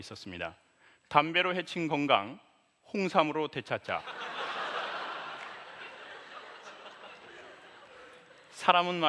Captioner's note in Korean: 웃음